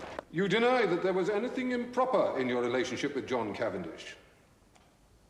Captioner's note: none